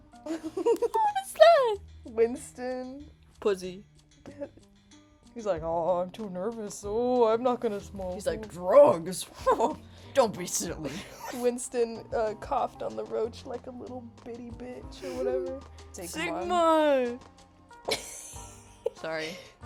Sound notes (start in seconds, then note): 0.3 laughing; 9.7 gorilla chortle; 11.2 laughing; 17.9 wheeze laughing